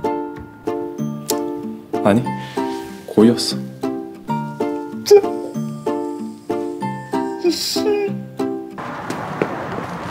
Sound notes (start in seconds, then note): 4.9 sobbing